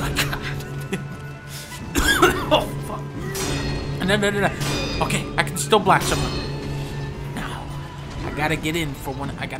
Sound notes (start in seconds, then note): 0.0 laughs; 1.7 coughs